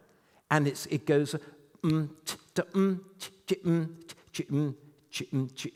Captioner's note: humming